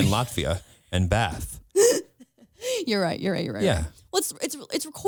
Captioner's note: laughs